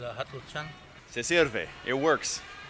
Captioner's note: speaking Spanish